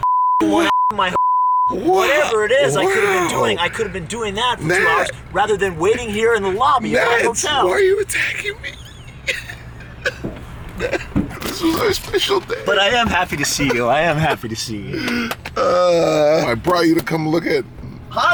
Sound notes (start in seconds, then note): 9.3 crying sounds